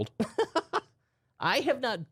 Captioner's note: laughing